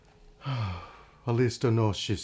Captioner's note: sighs